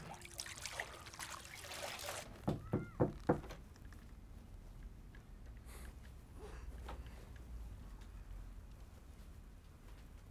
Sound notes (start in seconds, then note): 2.4 knock on door